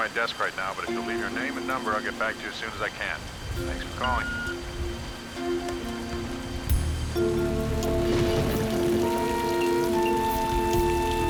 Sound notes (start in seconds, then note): 4.1 beep